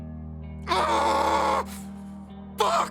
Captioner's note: screaming